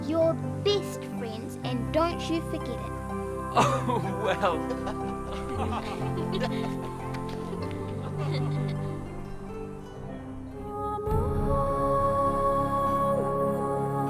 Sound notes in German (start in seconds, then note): 6.5 Lachen; 11.3 verträumte Musik